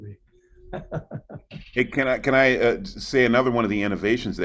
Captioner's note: chuckles